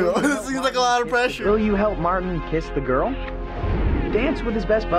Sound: voice-over

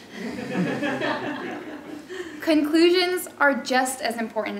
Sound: laugh

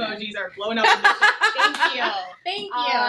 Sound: both laugh

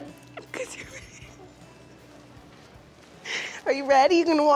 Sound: laughs

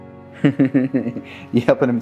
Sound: laughter

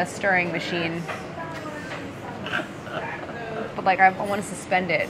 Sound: laughing

